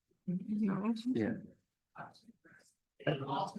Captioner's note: people chattering indistinctly